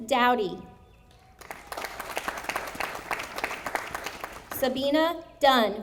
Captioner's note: audience applauding